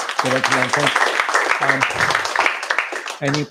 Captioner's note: applause